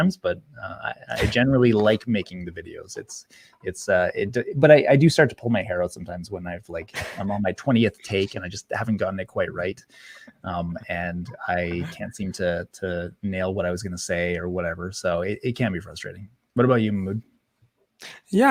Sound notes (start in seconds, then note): 11.6 chuckles